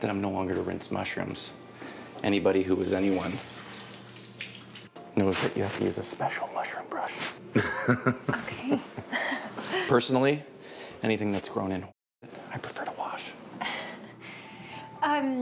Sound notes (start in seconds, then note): 7.5 all laughing